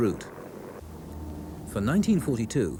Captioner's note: plane whirs